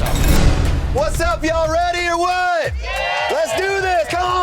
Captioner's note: cheers